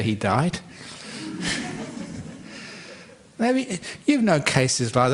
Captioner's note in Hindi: हँसी